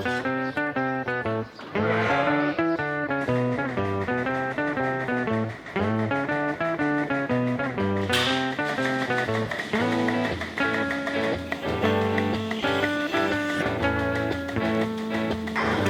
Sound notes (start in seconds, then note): 3.9 mechanical whirring